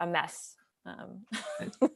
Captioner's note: chuckles